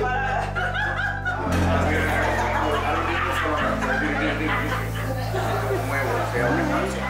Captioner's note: laughing